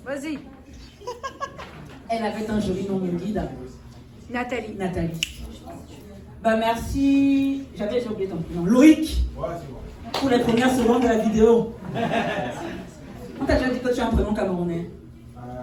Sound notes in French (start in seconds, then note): 0.8 rires; 11.8 rires